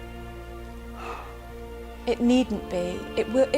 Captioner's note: sighs